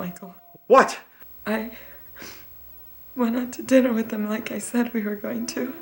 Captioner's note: sniffles